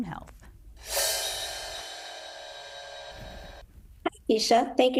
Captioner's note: screen whooshing